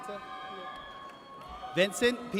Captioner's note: audience cheers